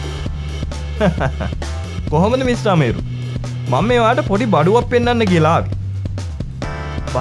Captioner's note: laughing